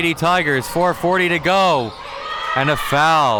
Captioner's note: whistle blows